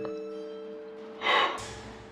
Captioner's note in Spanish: suspiro